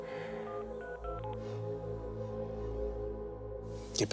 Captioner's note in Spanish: sonido al marcar